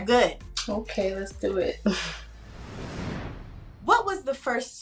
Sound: chuckles

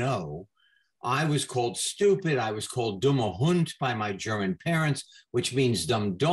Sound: in German

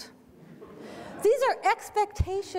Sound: audient laughter

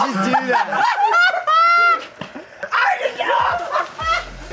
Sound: screaming and laughing

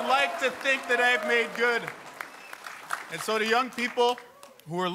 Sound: cheers and Applause

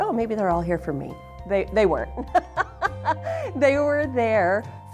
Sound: laughs

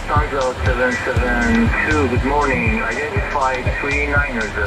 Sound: radio message

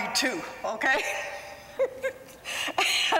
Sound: laughter

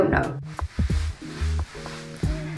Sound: shake, rustle, shake, rustle

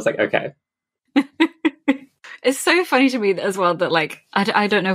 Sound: laughs

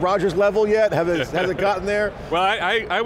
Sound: laughs

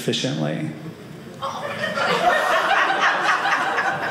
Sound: audience laughing

